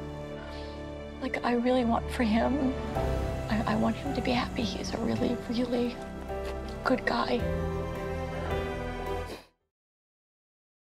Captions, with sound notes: Like, I really want for him-- I want him to be happy. He is a really, really good guy. 00:02:20.557,00:00:00.000 - [sniffles]